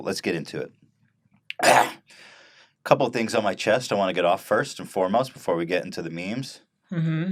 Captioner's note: cough?